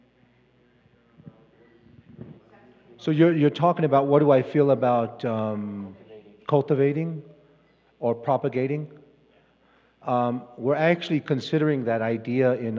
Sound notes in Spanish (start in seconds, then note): 2.4 Expositor habla en inglés